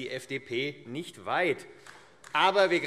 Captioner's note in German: Beifall AfD